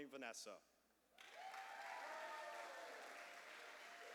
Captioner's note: cheers and applause